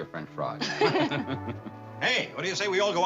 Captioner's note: laughter